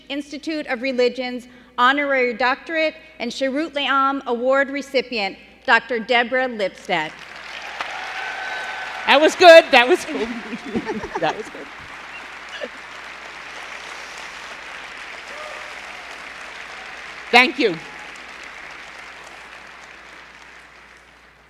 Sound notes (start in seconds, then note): 7.2 cheering and applause